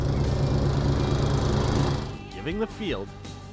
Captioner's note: lawn mower revving